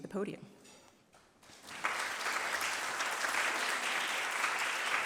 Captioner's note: applause